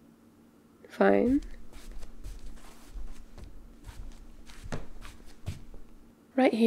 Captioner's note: footsteps - walks to sofa